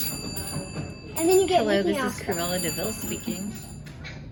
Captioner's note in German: Telefon klingelt